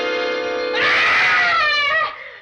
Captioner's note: screams